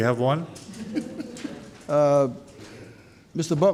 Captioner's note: laughs